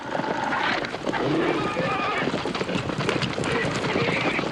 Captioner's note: horses running, dog growling